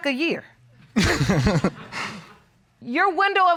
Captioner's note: chuckles